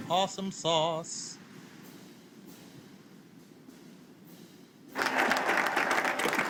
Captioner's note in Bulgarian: Аплодисменти